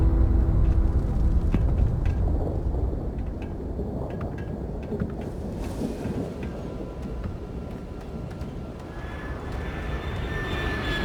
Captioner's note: wind howling; rumbling